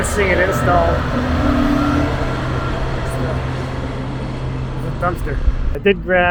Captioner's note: engine rumbling